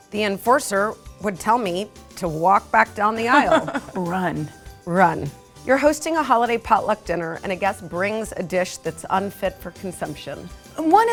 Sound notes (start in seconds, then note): 3.3 laughter